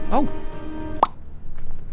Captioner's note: pop!